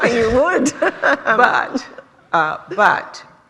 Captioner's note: laughter